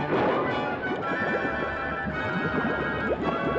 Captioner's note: liquid Bubbling; bubbling